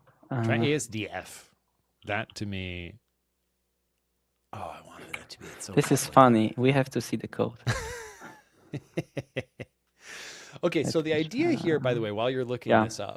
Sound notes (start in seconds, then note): 8.7 laughs